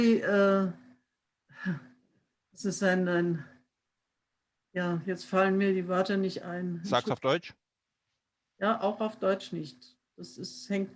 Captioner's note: foreign language